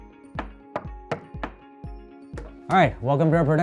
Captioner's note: knocking